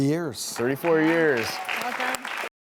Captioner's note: applause